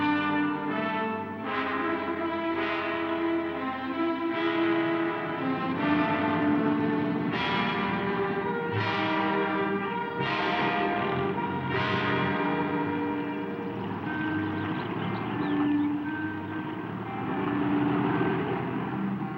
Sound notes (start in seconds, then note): 1.9 tense dramatic music; 6.4 car engine roaring